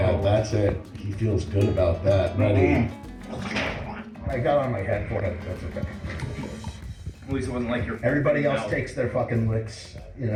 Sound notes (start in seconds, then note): 5.4 vomit spew